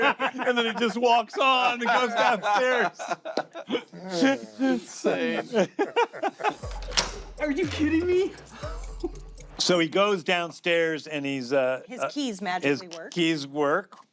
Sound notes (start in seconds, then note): 4.4 laughter continues; 6.8 lock clicks; 8.7 chuckles